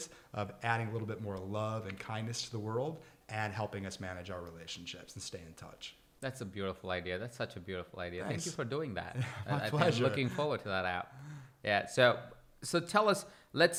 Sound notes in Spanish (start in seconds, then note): 9.1 risas; 9.2 se ríe